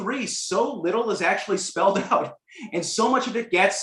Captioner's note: laughter